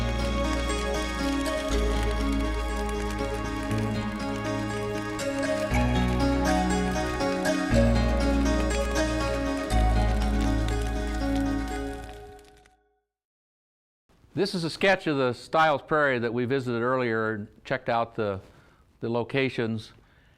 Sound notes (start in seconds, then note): 0.1 fire crackling